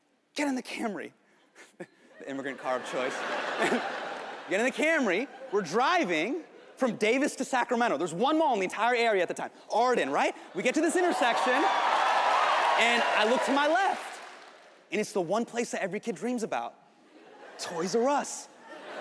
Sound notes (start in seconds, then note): 2.2 audience laughing; 10.6 audience cheering